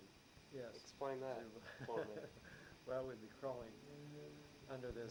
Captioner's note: laughs